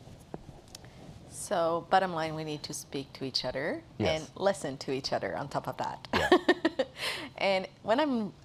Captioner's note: rires